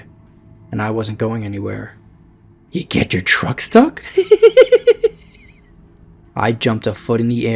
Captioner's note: giggle sound